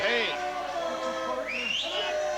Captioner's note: crowd cheering